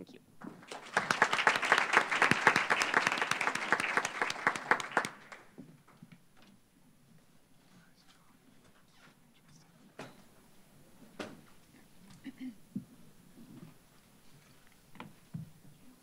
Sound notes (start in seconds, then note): 0.4 applause